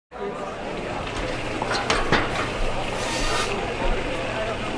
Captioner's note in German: Stadtgeräusche